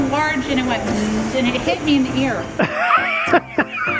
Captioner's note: imitates buzzing; laughs